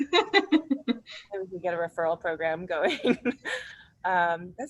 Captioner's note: laughs; laughs